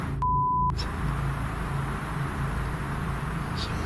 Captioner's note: beep